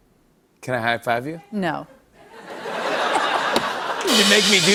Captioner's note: laughter